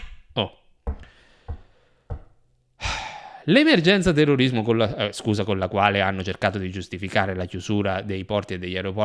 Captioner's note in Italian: sospira